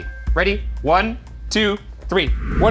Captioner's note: air whooshing